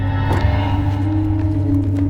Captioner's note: car unlocking